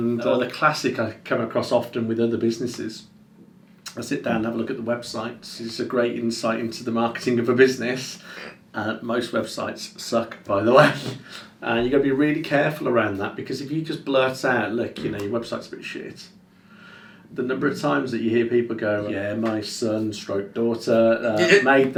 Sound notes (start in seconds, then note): 10.9 laughing; 21.3 laughs